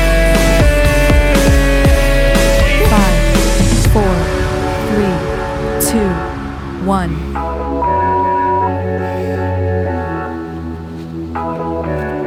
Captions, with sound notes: Five, four, three, two, one. (beep) (upbeat music)